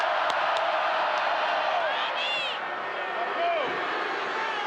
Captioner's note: crowd chants "Hooo"